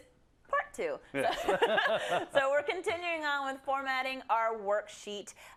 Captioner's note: laugh